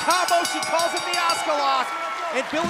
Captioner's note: bell